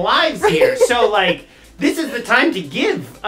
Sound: laughing

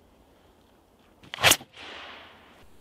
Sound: pfwoosh!

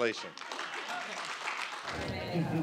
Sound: applause

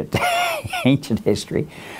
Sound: laughs

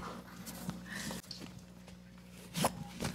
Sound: laughs

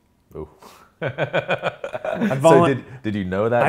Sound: laughs

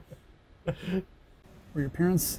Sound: laughing

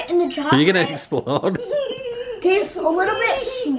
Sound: laughs

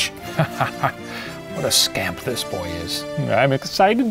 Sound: laugh

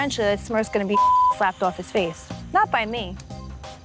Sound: beep

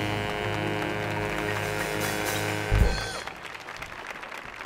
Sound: audience applauding

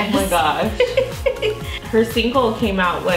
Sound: giggles

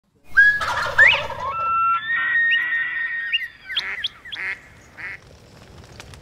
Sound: bird calls

